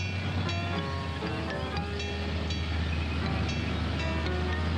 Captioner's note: tense thoughtful music continues; tank engines rumbling